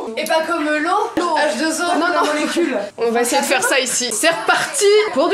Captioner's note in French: rire